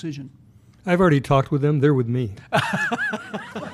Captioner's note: laughter